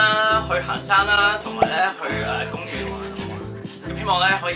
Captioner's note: voice trembling